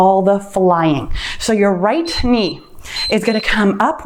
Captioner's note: timer beeps